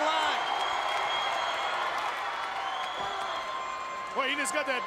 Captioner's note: crowd cheering